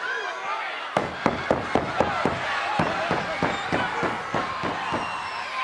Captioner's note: Paul Bearer thumping mat